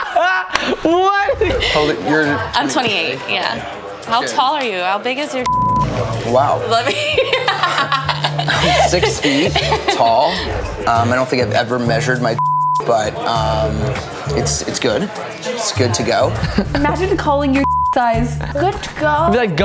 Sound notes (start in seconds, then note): 5.4 beep; 6.8 laughs; 12.3 beep; 17.6 beep